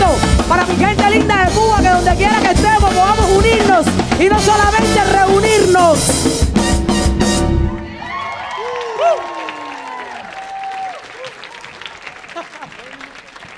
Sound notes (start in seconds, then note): 6.6 upbeat music; 7.8 audience cheering and applauding